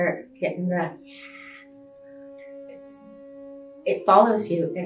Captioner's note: speaking faintly